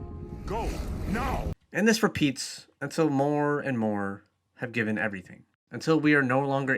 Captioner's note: voiceover